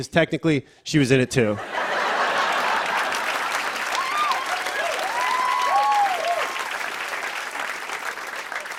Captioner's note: laughter and applause